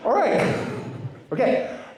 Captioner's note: laughter